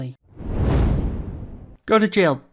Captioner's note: air whooshing